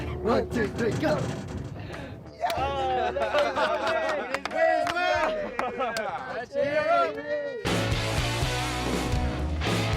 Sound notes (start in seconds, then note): 2.2 clapping; 7.6 rock music